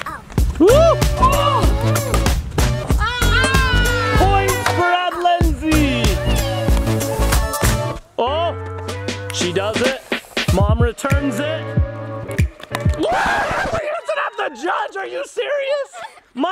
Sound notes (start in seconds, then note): 0.1 ball knocks against paddles; 2.9 crowd exclaims